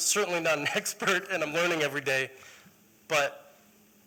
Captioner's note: laughter